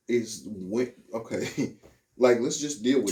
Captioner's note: laughing